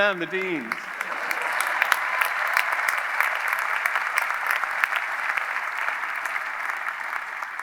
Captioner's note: audience applauding; audience cheering